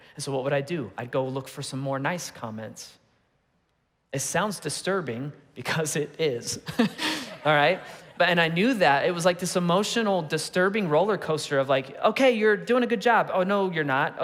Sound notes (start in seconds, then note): 6.6 congregation laughing; 6.6 laughing